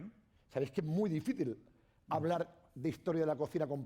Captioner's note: speaking spanish